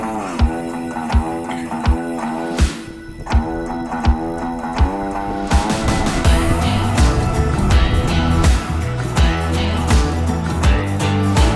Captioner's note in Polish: Aplauz